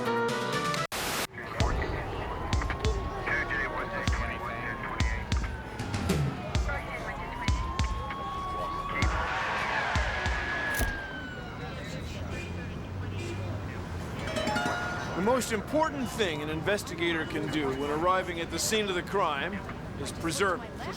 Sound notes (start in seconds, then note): 4.3 sirens wailing